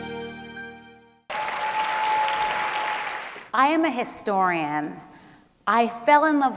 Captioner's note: applause